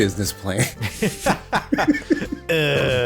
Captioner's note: laughs in bureaucracy